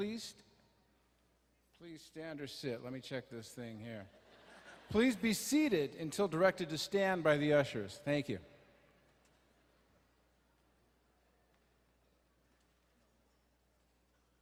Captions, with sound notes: please stand or sit, let me check this thing here. (crowd laughing) Please be seated until directed to stand by the ushers, thank you. (quiet murmuring)